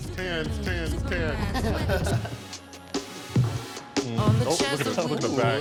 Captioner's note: group chuckling